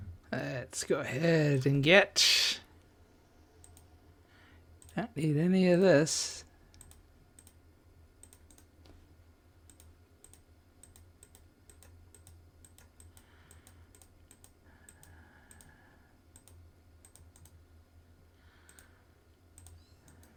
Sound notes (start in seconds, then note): 0.0 silence; 2.5 silence; 6.2 silence; 13.4 silence